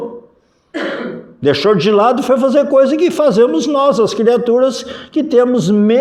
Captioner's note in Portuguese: limpando a garganta